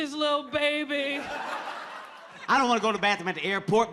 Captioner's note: audience laughing